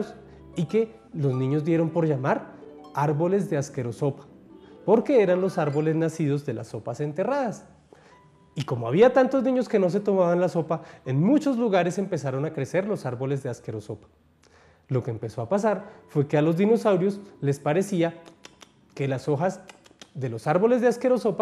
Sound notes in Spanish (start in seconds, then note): 18.3 sonidos de masticar